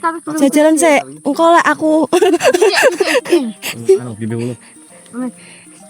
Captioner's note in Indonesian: tertawa